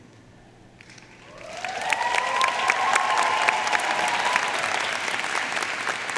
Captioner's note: audience cheering and applauding